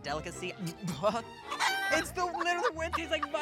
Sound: moaning

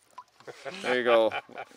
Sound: laughs

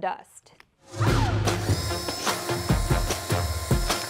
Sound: drill motor roaring; upbeat music continues

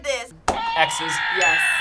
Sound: buzzer shouts

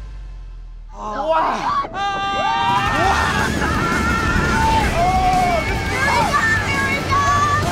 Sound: riders screaming

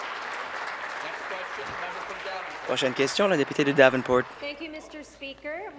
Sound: applause

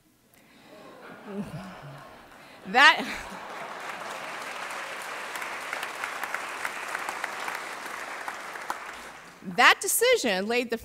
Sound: laughter; applause

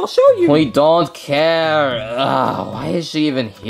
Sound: grunts

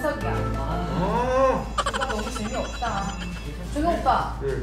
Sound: laughter

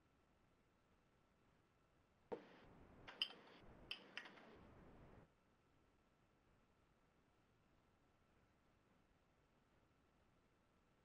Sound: pause

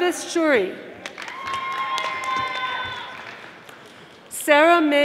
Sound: audience applauding

